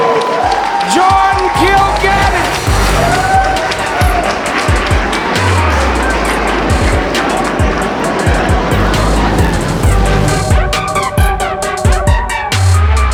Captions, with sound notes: Jordan Kilganon! (crowd Cheering)